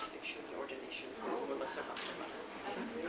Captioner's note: non-english speech